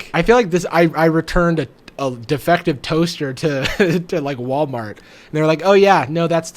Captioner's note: laughs